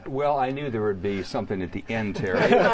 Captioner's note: laughter